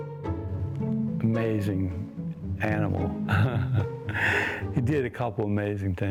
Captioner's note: laughs